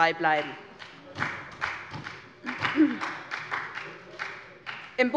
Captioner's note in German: Beifall bei der SPD